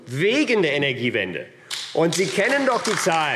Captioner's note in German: Beifall AfD